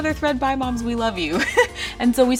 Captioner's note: laughs